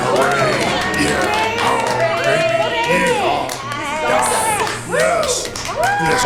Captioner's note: applause continues